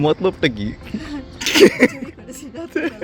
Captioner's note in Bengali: হাসি